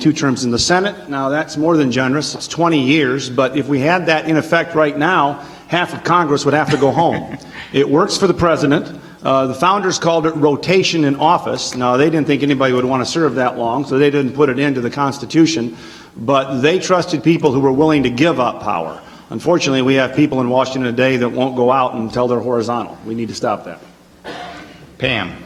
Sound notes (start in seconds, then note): 6.6 laughter